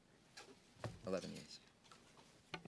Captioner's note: speaking French